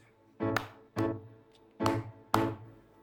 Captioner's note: clapping